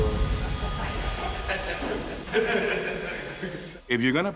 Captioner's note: laughter